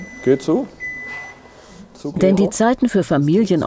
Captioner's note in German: Piepen